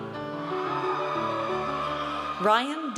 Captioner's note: audience cheers